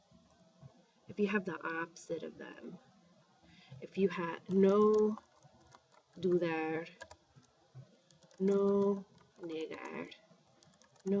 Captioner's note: speaking spanish